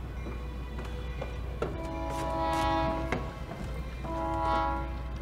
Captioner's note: train approaches with bell and whistle